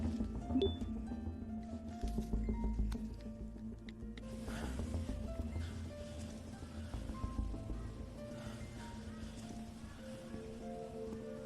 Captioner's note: chimes